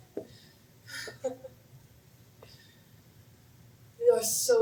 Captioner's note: laughter